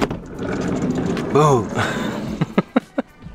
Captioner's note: laugh